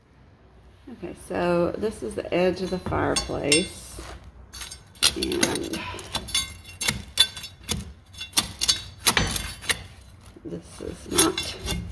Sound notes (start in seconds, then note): 6.7 scraping